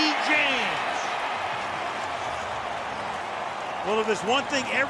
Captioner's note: cheering